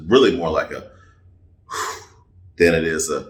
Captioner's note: sighs